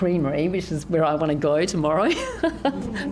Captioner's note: laughs